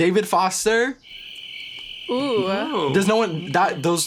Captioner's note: crickets